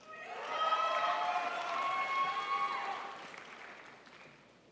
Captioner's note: crowd applauds